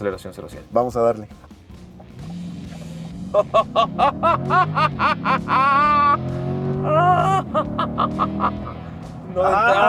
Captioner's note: excitement laughter; engine revving